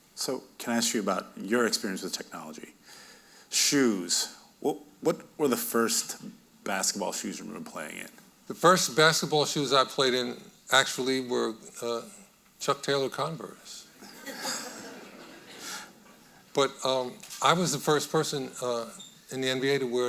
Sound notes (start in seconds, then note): 14.0 audience laughing